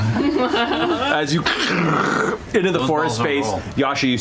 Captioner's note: growls